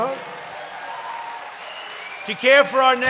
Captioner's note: applause